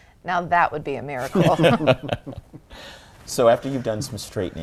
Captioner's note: laughter